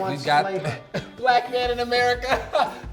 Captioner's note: laughing